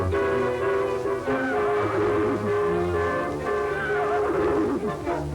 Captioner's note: neighing